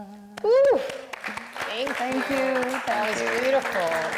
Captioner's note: audience applauds